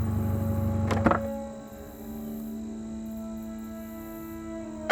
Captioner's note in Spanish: Se abre la puerta del auto